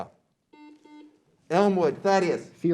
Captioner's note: beep